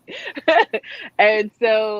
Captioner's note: laughs